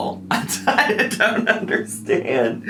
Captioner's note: laughing